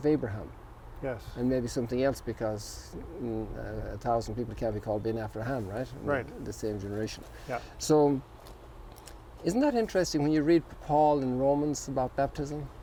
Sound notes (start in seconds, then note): 0.0 foreign language; 4.7 foreign language